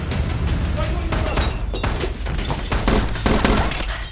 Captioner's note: guns continue firing; panting